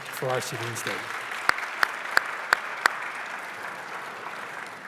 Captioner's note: applause